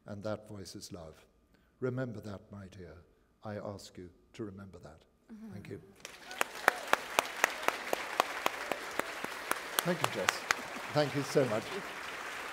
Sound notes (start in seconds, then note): 6.0 applause